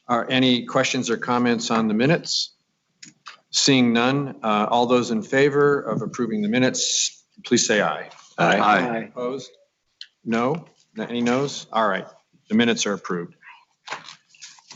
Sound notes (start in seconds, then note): 8.3 multiple voices